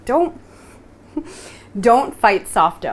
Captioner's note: chuckles